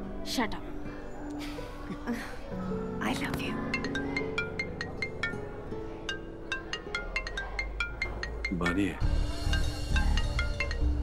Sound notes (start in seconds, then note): 4.0 Phone ringing